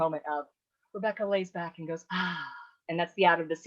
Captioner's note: sighing